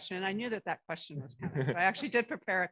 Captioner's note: laughter